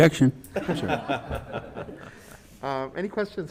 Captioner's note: panelists laughing